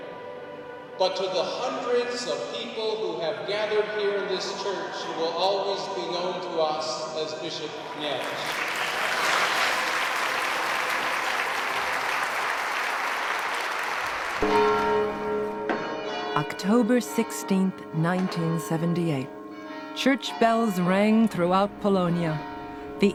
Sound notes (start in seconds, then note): 7.9 applause